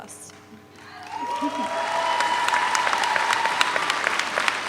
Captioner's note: audience applauds